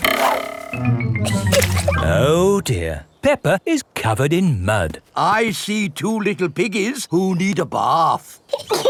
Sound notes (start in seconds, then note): 1.2 chuckles; 8.7 both laughing